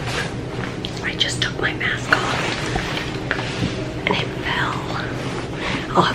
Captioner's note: whispering